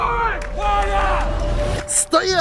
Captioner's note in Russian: Начинает хлопать